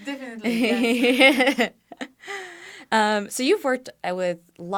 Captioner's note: laughter